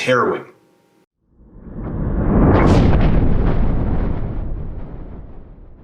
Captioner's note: rumbling